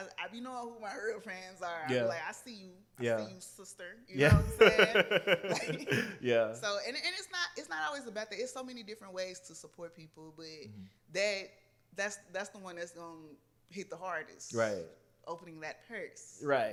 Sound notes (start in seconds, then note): 4.2 laughs